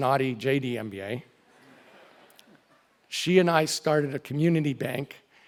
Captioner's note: laugh